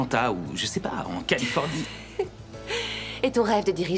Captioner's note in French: rires